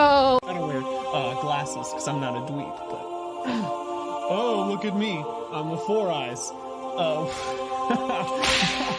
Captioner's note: strained; mocking voice